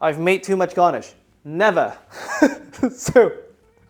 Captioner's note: chuckles